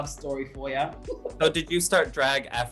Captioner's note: laughter